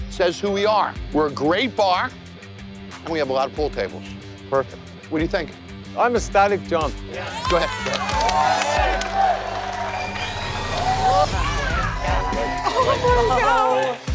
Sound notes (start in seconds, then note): 6.7 cheers